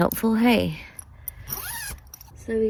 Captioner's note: zipper zips